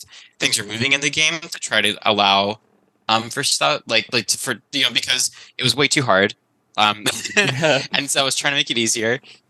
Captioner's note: laughs